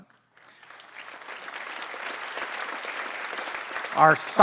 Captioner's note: applause